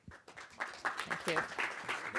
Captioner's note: applause